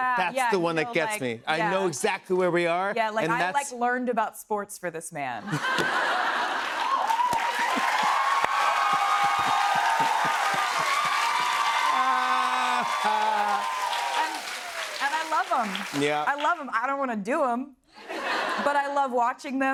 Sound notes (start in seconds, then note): 5.4 laughter; 7.4 cheers and applause